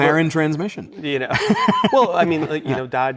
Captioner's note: laughs